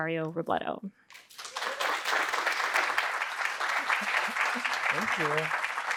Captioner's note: audience applauding